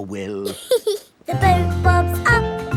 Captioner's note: giggles